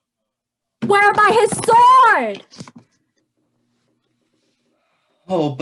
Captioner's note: shouting